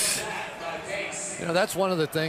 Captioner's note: stadium announcements